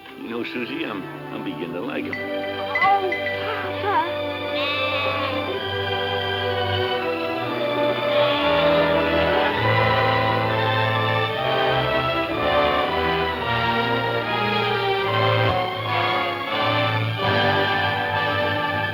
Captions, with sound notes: You know, Susie, I'm beginning to like 'em. - Oh, Papa. (lambs bleating) (soft music)